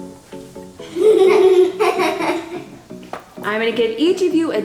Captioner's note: laughing